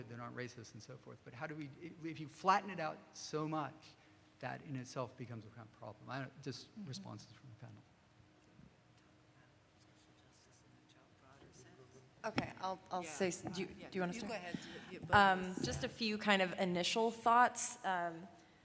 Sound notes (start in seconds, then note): 10.4 speaking off mic